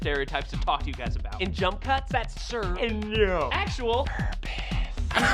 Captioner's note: whispering